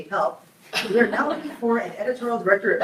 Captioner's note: group laughs